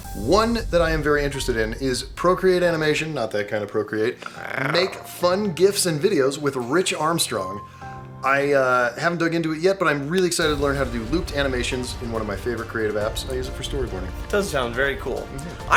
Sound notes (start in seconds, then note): 4.2 purring?